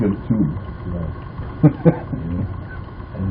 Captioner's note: laughter